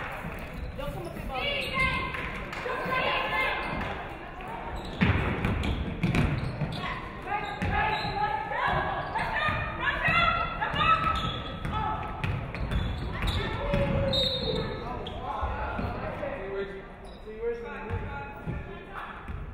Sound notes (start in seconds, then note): 14.0 referee whistles